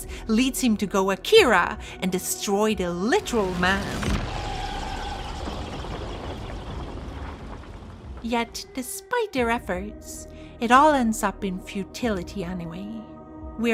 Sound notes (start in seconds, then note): 3.1 implosion sound effect